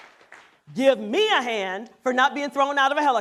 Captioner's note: applause